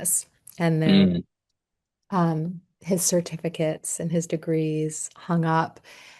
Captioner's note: clears throat